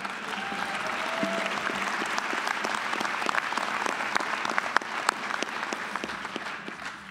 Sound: applause

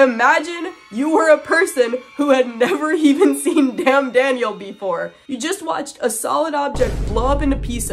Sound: tense rising music; boom

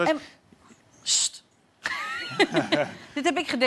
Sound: giggles

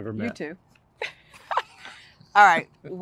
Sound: laughter

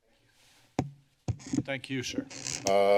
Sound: banging

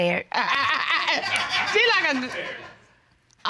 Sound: laughing

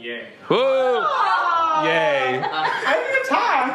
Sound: cheering

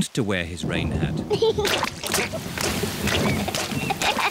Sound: thunder rumbling; giggling

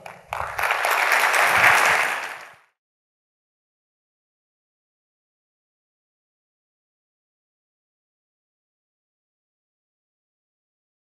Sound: applause

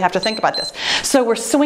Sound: timer beeps

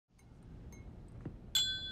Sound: glasses clink

